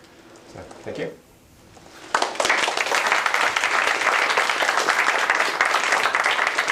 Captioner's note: applause